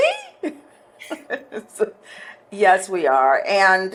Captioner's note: laughing